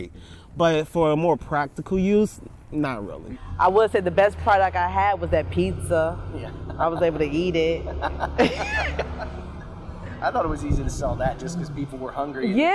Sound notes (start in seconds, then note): 8.1 laughing